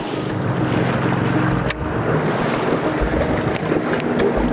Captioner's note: boat engine humming